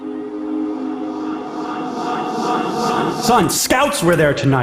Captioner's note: eerie instrumental music; distorted echoing voice